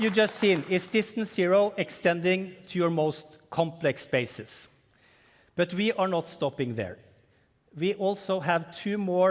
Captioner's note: cheering and applause